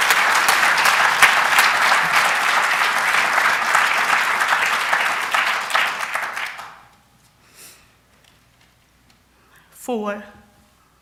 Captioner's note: cheers and applause